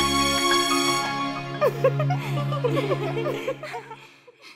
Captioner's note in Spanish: Risas